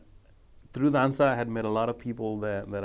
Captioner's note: speaking foreign language